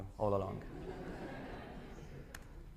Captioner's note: laughter